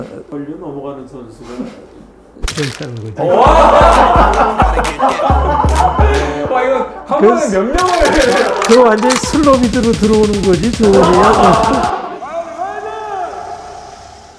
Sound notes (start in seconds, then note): 7.8 gun loading sound effect